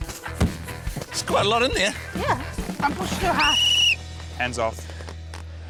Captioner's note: whistle trills